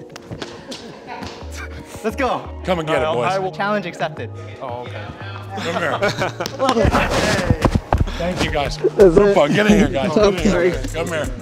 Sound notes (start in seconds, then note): 0.2 all laughing; 5.5 all laughing